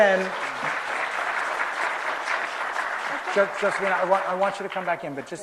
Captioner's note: applause